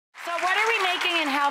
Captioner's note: audience applause